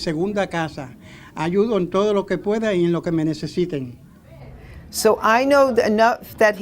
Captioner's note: speaking in Spanish